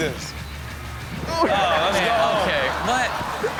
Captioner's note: thunder crashes